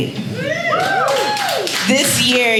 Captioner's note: audience cheers and applauds